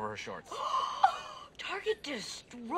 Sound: shirley and britta gasp

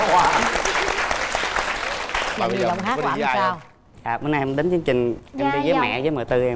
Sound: applause

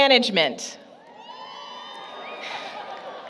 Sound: applause, Cheering

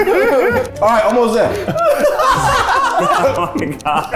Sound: everyone laughs

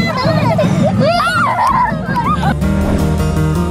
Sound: laughing; lively music

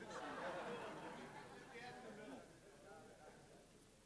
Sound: audience laughs

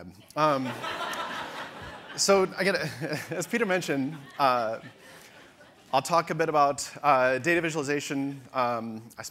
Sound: audience laughter

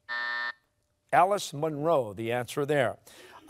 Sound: buzzer sounding

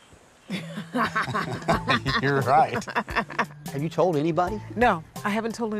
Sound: laughing

